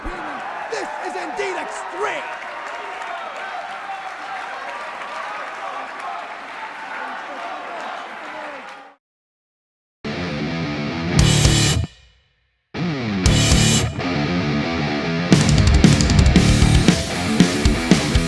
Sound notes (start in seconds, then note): 3.2 crowd cheering; 5.7 crowd chatter